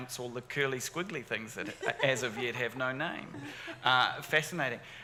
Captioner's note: audience laughing